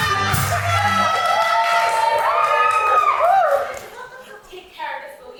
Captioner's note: audience cheers